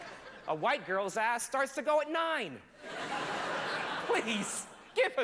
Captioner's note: laughter